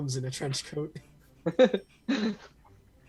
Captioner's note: laughter